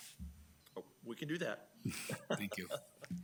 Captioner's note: people chuckle